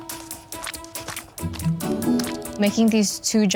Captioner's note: frosting splattering